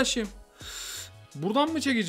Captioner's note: breathing